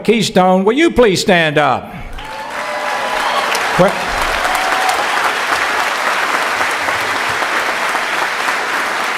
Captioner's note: cheering